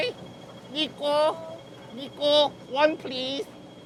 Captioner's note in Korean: 광둥어